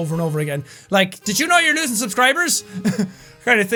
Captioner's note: laughs